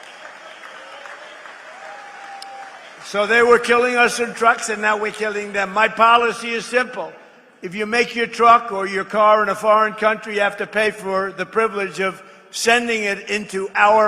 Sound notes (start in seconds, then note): 3.1 applause